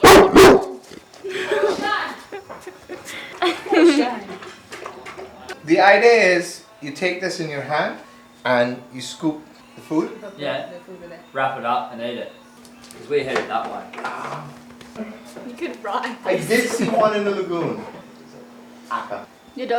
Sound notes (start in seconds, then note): 0.0 dog barks; 1.2 giggles